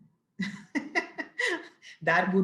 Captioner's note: laughs